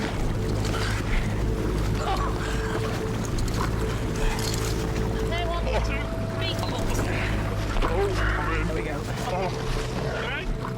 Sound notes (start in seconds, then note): 0.0 water splashing; 0.3 suspenseful music; 0.3 water splashing; 2.4 chain rattling; 2.7 water splashing